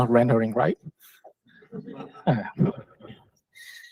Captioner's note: laughter